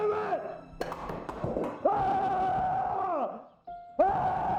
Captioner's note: furniture banging